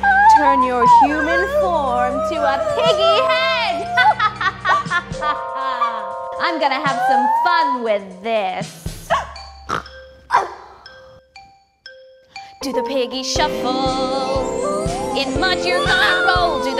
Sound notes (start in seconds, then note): 3.7 evil laugh; 9.7 Eury grunts